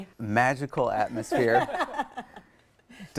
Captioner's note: laughing